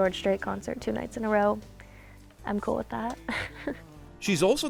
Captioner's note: laughs